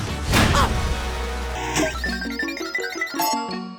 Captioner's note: slot machine sounds